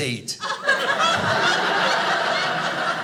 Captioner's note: audience laughing